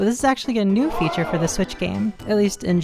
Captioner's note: crowd gasping